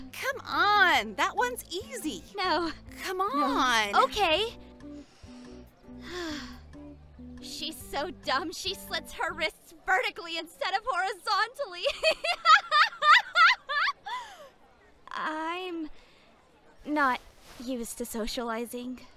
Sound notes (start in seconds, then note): 4.8 KOTONOHA inhales, then exhales; 12.1 laughs